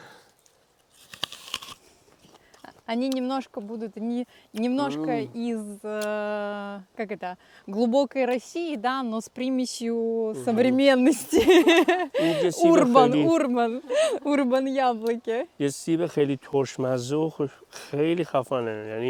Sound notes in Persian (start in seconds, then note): 11.2 خنده